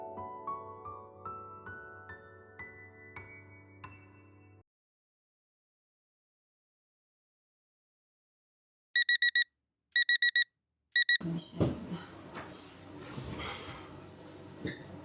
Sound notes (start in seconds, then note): 8.9 beeping